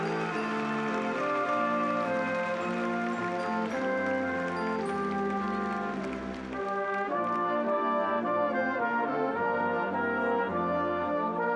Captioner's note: applause